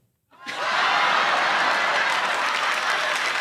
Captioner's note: laughter